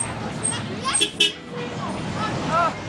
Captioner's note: bus horn